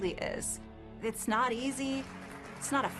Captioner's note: clapping